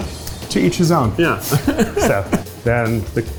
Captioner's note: chuckles